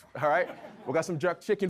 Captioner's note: audience laughs